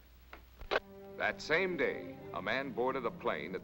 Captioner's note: voiceover